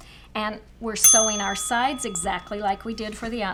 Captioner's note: ding